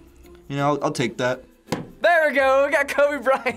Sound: hits table

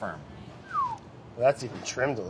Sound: whistles

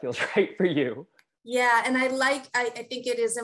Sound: laugh

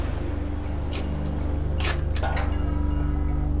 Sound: lock click

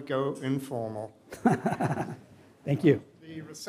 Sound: laughs

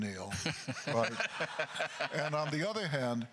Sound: laughing; crowd laughter

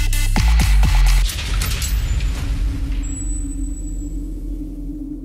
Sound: trailer door latch

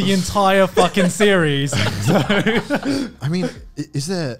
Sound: laughing

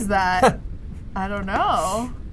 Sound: laughs

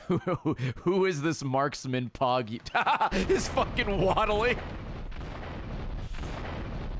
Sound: laughs

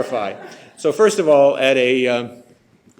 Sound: chuckles

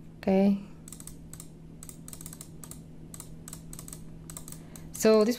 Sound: mouse clicking

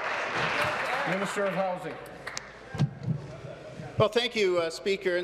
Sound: applause

